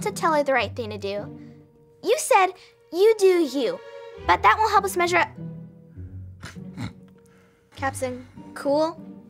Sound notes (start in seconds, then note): 6.4 Captain Cool snorts